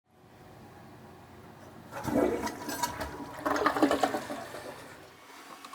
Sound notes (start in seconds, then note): 1.8 toilet flushing